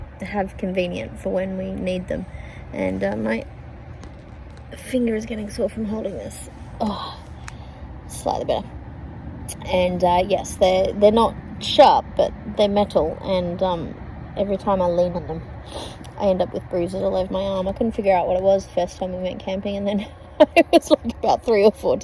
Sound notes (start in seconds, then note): 15.6 sniffs; 20.0 laughingly